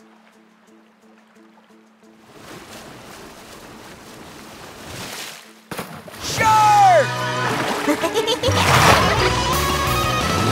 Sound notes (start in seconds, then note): 7.7 giggling